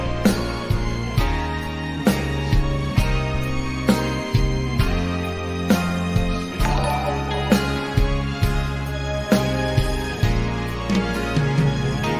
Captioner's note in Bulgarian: Аплодисменти